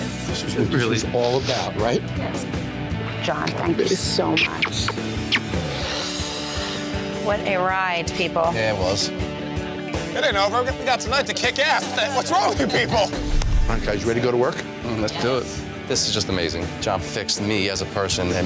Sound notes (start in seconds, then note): 5.3 upbeat rock music; 12.0 chuckles